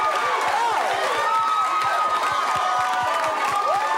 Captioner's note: cheering